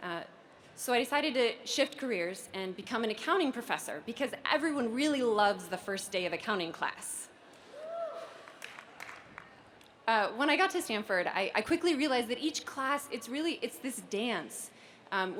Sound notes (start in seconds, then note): 8.3 applause